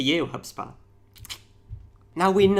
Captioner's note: clicking tongue